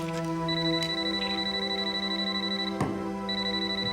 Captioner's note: phone ringing